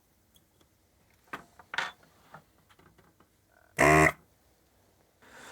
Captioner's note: buzzer